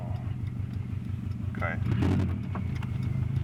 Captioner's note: rumble hurts the mic